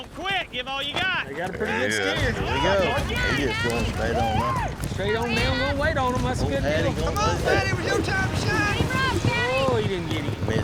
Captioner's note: all shouting